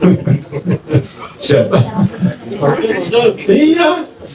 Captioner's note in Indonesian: tertawa